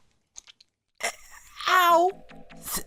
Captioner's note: stutters